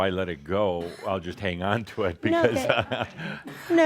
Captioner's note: Adamus chuckles